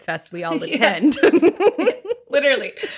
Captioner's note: laughs